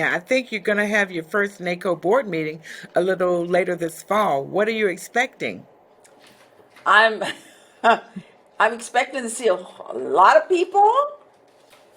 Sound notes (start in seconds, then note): 7.1 laughing